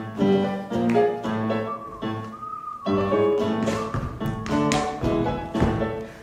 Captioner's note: whistling